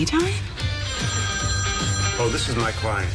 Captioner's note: phone ringing